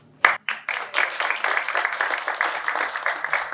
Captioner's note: applause